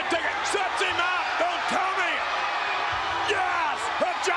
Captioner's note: spectators cheering